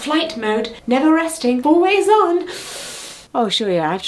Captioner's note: inhales sharply